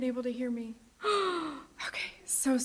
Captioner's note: sighs